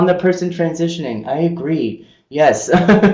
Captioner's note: laughing